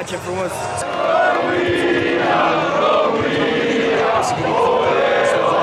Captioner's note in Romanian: Aplauze